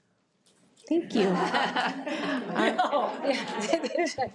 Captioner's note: audience laughs